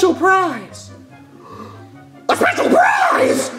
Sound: gasps

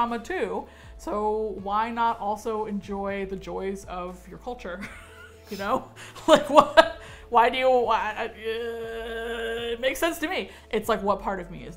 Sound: chuckles

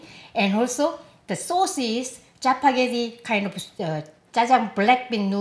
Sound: none

